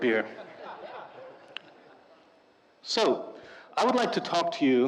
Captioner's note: audience laughing